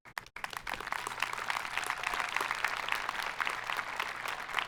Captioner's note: audience applauding